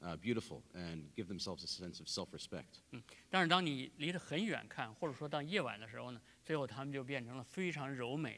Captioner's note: speaking in Chinese